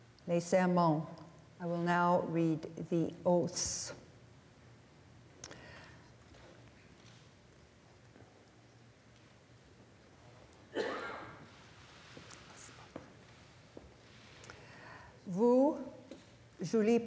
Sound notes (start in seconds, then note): 4.6 speaking French